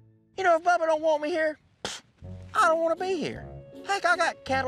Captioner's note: scoffs